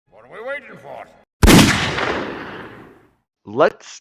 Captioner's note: gunshot